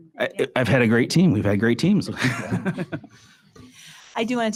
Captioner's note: laughs